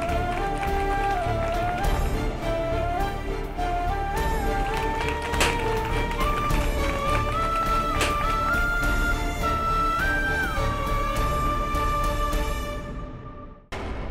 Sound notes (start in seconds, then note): 4.8 popping confetti